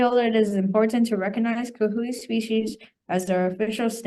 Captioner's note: student speaking in foreign language